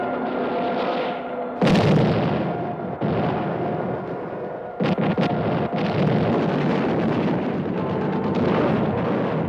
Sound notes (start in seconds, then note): 1.6 explosions; 1.6 gunfire